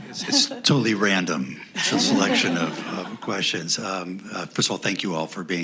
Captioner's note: laughter